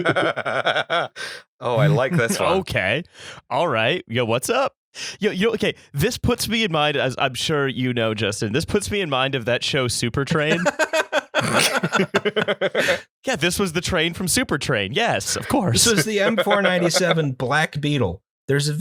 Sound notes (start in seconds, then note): 10.4 laughter